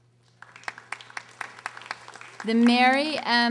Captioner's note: audience applauding